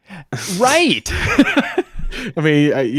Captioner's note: laughing